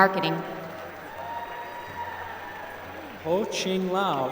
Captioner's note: applause